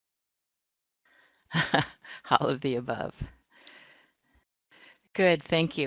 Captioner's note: chuckles